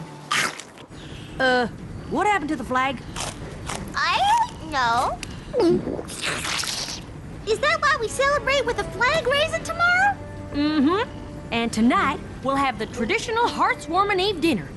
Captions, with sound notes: [chomp] Uh, what happened to the flag...? I don't know. [gulp] [slurp] Is that why we celebrate with a flag-raising tomorrow? Mm-hm. And tonight we'll have the traditional Hearth's Warming Eve Dinner